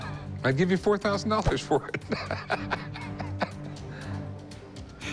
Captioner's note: laughs